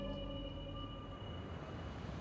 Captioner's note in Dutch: naderende auto